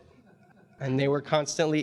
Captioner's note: audience chuckling